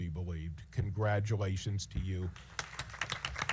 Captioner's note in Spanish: aplausos